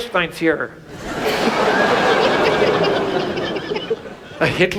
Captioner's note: audience laughs